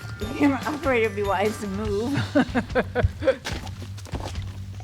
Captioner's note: laughs